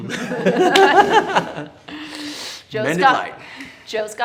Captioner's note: all laughing